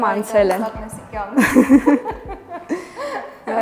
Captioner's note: laughing